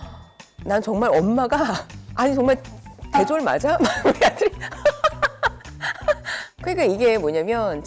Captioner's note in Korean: 웃음